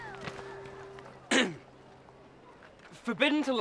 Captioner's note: throat clearing